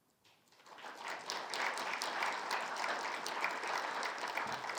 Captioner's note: crowd applauding